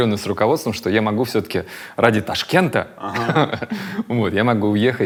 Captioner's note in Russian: смеётся